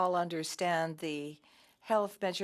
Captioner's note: speaking French